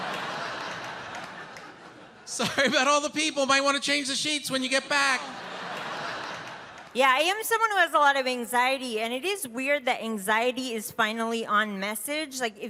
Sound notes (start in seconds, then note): 0.0 audience laughing; 4.6 audience laughing